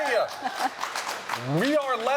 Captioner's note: applause